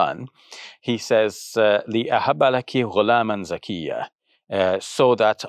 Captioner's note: speaks in Arabic